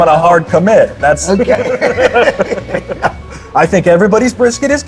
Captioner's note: pair laughs